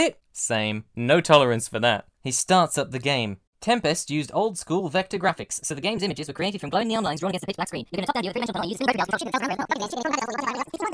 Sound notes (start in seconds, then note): 6.6 audio gradually gets faster